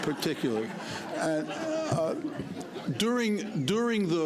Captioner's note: laughter